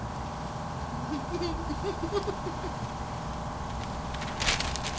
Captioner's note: Hendricks giggles